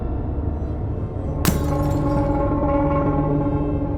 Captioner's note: glass shatters; deep tense music